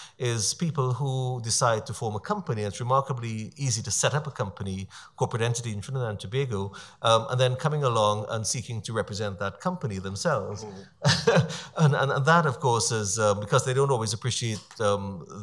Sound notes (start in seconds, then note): 10.4 laughs